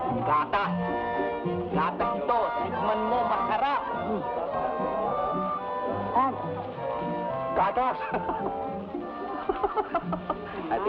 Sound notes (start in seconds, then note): 0.1 man speaking in Tagalog; 7.7 man speaking in Tagalog; 8.0 man laughs